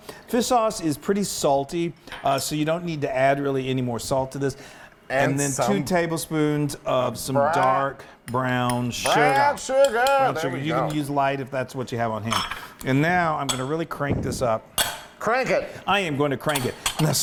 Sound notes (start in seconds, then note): none